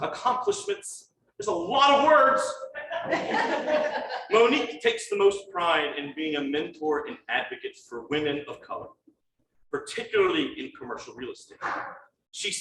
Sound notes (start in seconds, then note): 2.8 crowd laughing